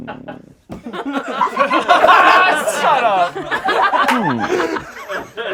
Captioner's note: laughing